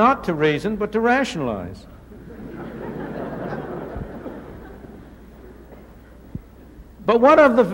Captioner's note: laughter